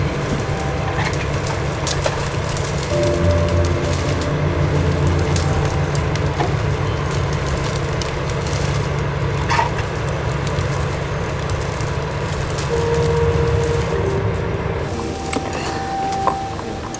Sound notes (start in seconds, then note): 0.0 branches cracking; 0.0 leaves rustling; 7.7 branches cracking; 7.7 leaves rustling